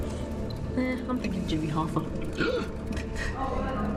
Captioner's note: laughs